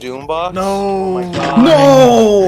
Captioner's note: splat SFX